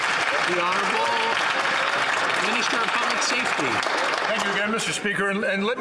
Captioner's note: some Applause